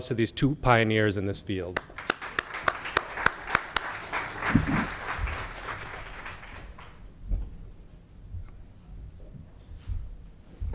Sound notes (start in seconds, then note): 1.7 everyone applauding